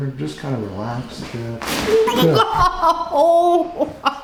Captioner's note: neck popping